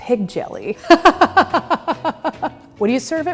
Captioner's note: laughing